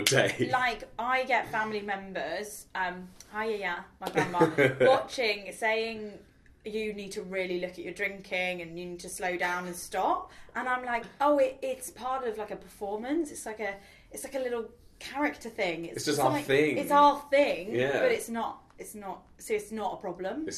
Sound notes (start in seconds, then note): 0.0 chuckling; 4.1 laughs